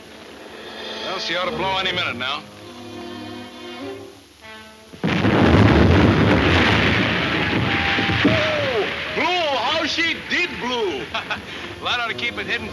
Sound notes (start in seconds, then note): 5.0 explosion